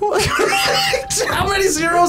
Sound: laughs

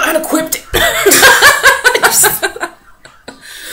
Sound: laughs

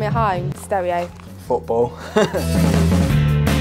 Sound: laughs

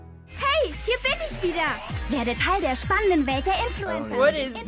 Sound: speaking German

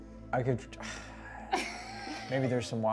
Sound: sighs

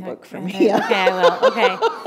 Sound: laughter

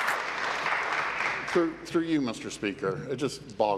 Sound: applause

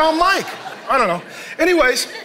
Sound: congregation laughing

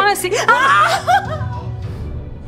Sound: mom whimpers; mom screams; dramatic music

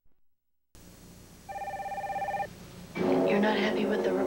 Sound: phone ringing

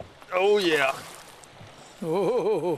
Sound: splash

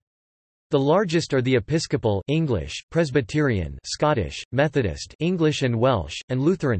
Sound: Scottish

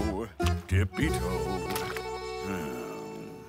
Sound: groans

